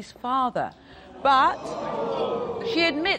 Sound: audience gasping

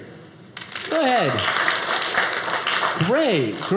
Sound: audience applauding

